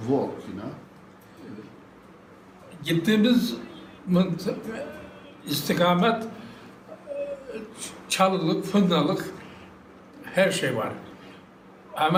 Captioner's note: foreign language